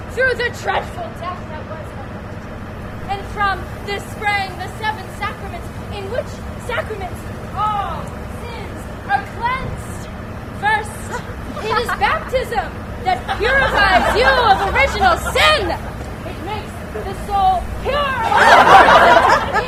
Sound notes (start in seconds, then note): 13.1 laughter; 18.2 laughter